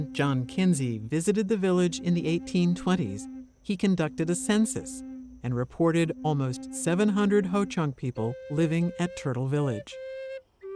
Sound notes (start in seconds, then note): none